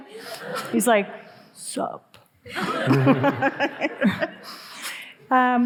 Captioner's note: all laughing